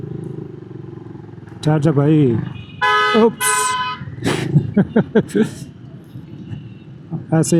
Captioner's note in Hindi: हंसी